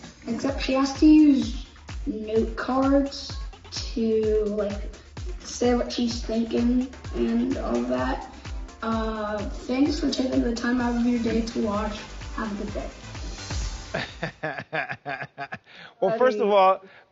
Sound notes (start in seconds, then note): 13.1 upbeat music; 13.9 laughing